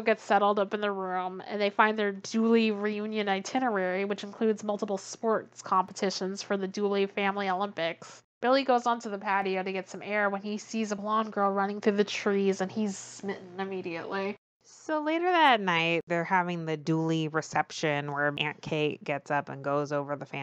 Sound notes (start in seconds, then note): none